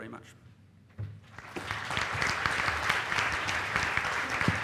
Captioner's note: applause